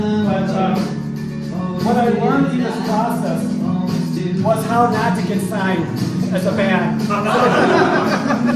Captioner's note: laughter